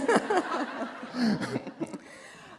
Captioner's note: laughter